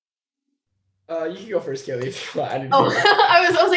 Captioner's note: laughs